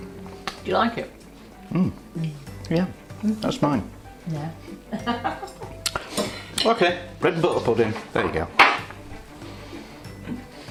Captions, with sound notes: "Do you like it?" "Mmm. Yeah. That's mine!" "yeah" [ LAUGHS ] "OK, bread and butter pudding, there you go."